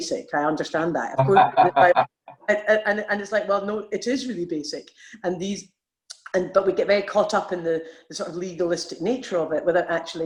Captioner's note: laughing